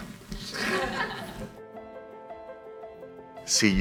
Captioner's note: crowd laughs